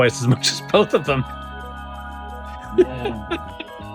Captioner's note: laughing